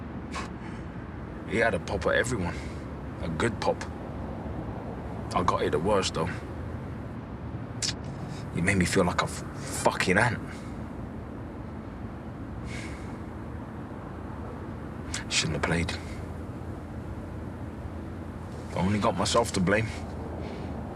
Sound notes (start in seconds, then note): 0.4 he scoffs; 7.8 he tuts; 12.6 he exhales, softly